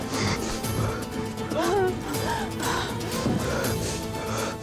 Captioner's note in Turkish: Nefes sesi